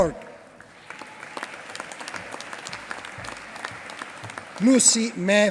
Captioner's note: applause